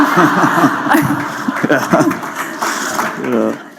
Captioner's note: laughter